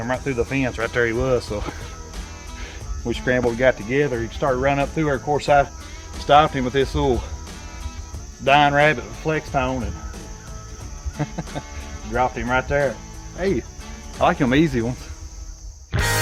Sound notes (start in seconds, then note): 9.8 chuckling